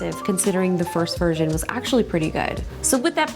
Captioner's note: none